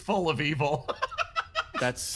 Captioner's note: laugh